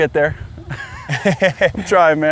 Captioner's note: laughs